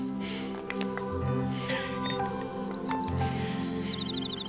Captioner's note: laughs